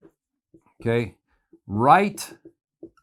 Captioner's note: marker squeaking